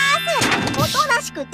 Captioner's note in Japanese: 物音